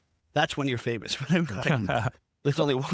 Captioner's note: laughing